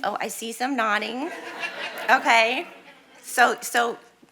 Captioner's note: audience laughing